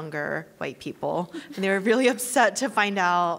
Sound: laughing

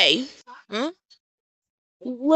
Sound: silence

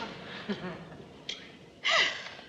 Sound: sighs

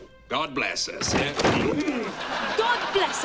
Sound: door slam; laughs

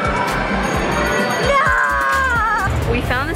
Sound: various games chime; bell chimes

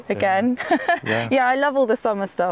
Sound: laughs

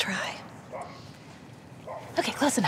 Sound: dog barking

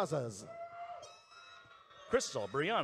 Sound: audience cheering

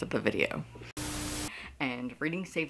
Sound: Static

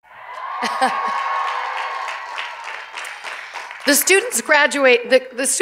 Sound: cheers and applause

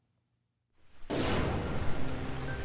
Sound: blasterfire

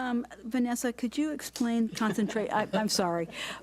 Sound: board laughs

